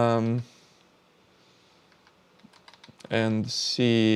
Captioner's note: keyboard clicking